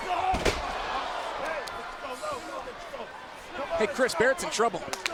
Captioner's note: crowd chatter